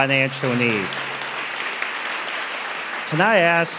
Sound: audience applauding

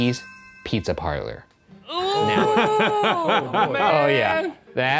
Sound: ding; laughing

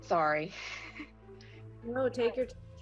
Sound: chuckles

